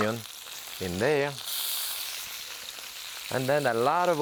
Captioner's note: pan sizzling